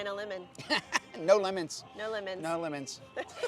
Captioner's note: chuckles